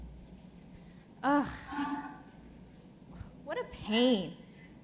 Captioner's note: groaning